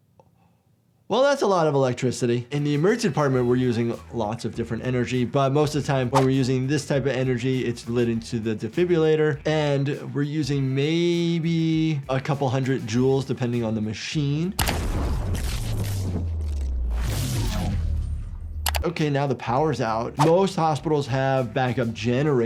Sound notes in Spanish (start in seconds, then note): 14.6 la electricidad crepita